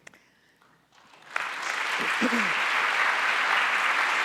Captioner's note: audience applauds